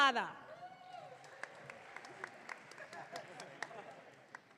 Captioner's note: audience clapping